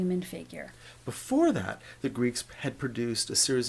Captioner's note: voiceover